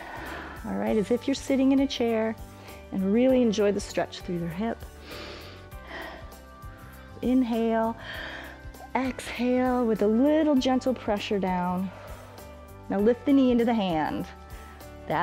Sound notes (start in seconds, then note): 4.9 inhales and exhales; 8.0 inhales